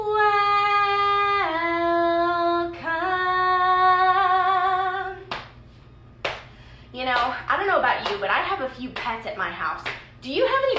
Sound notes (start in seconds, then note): 5.8 slapping